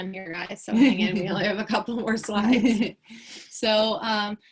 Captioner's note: chuckles